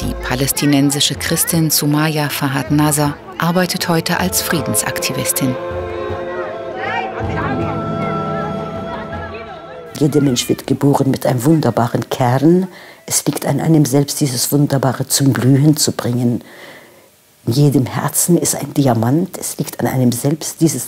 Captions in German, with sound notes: die palästinensische Christin Sumaya Farhat-Naser, arbeitet heute als Friedensaktivistin. (Stimmengewirr) Jeder Mensch wird geboren mit einem wunderbaren Kern. Es liegt an einem selbst, dieses Wunderbare zum Blühen zu bringen. In jedem Herzen ist ein Diamant, es liegt an einem selbst,